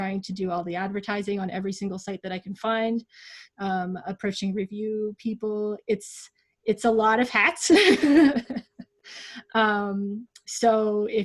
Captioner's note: laughs